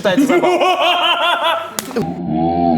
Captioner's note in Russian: Звук пощечины